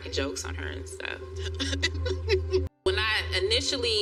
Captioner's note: both giggle